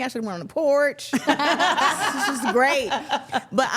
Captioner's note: everyone laughs